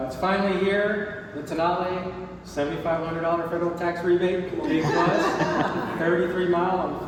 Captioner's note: crowd laughs